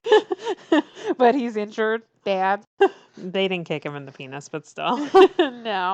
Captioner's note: laughs; laughs